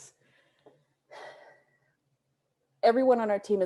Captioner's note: sighs